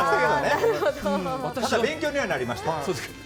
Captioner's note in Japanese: 笑い